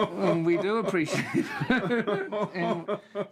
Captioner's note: both laughing